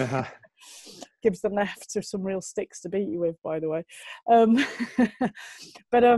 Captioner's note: lacht